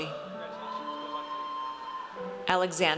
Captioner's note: audience cheers